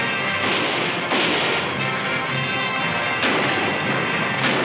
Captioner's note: gunshots firing